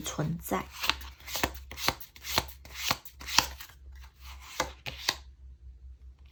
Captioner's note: drawing cards